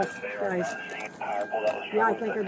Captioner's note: radio chatter